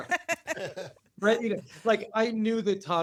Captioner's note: laughter